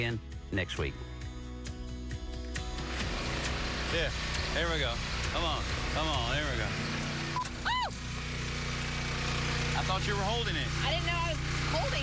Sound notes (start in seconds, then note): 7.3 squeals